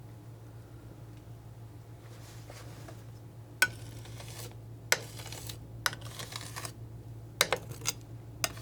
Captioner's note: tapping